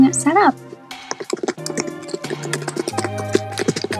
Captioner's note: typing